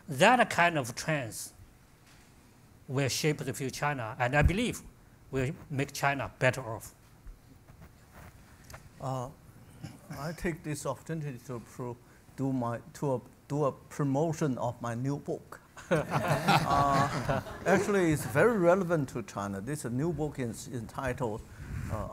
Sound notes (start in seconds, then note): 15.9 audience laughs